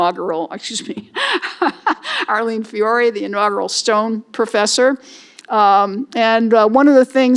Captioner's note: laughs